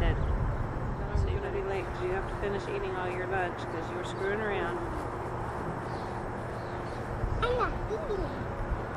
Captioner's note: wind is blowing